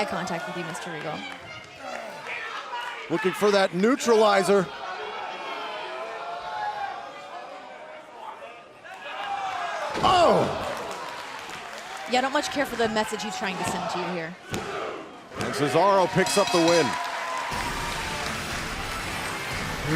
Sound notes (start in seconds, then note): 5.8 crowd chatter